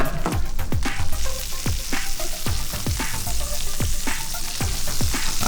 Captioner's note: food sizzling